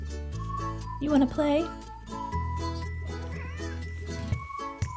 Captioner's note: meows again